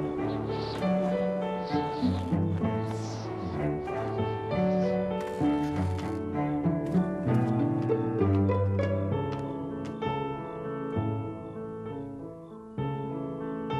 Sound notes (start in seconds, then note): 0.0 wind gusting